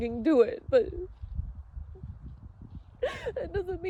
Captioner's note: sobs softly